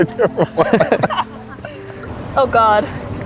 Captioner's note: all laughing